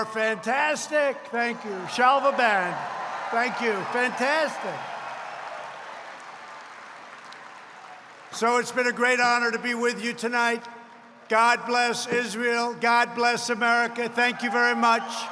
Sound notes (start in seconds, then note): 1.3 applause